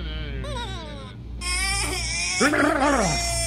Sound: crying

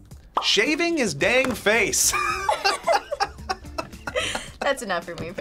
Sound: laughs

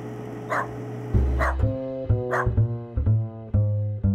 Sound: dog barking

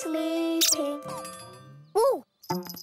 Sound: squeaking

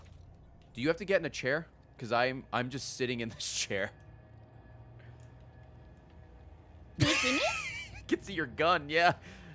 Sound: laughs

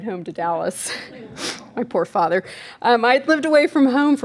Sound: giggles

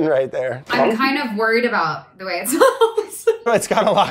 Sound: laughs

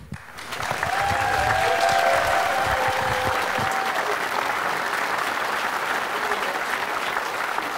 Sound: applause

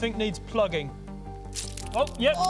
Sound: squish!

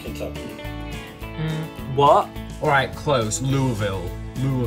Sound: humming

